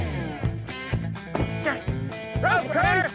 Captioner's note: door closes